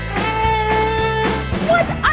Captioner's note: horn blaring